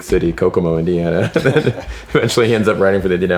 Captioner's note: laughs